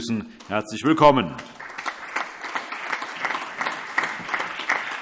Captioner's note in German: Allgemeiner Beifall